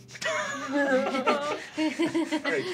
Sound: group laughing

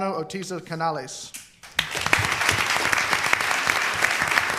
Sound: applause

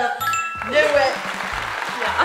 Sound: correct bell rings; crowd clapping

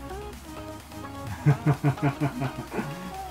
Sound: laugh

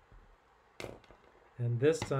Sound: pen clanking

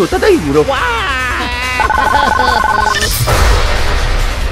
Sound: crying

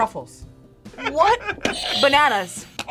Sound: buzzer rings

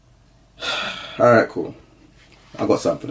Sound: sigh

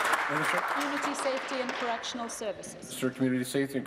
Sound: applause

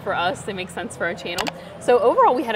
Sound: graphic clicks

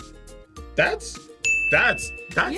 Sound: bell rings

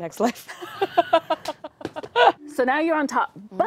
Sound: laughter

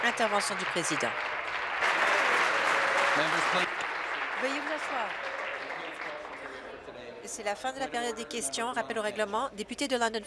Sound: applause

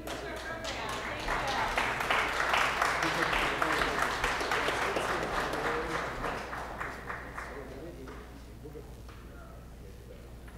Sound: applause

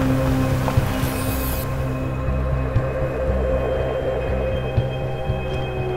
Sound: paint can spraying

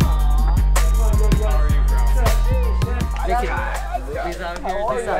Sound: faintly speaking

